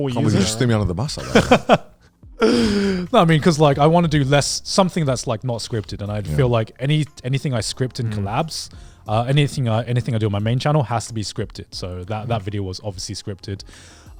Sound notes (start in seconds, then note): 0.2 laughs